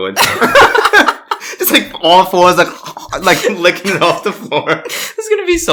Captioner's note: laughs; gagging noises